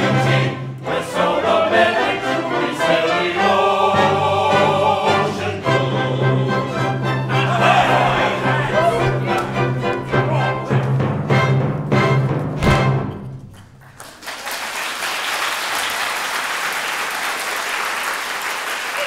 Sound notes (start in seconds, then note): 6.6 CHORUS cheers as music ends; 13.6 applause